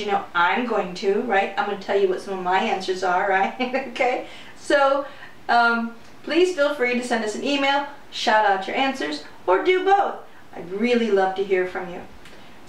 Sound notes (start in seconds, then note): 4.7 laughter